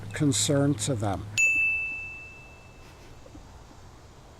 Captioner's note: bell chiming